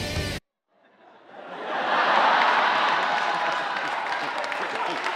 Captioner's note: audience laughing